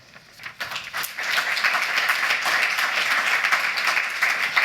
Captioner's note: applause